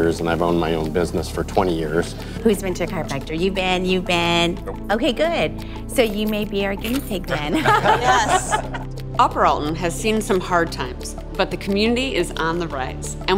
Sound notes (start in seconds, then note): 5.8 laughs